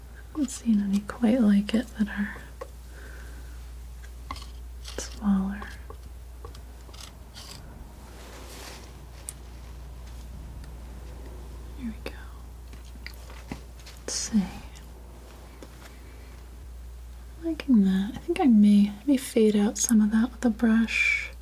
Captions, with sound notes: I haven't seen any quite like it that are smaller (scratching) Here we go Let's see I'm liking that I think I may, let me fade out some of that with a brush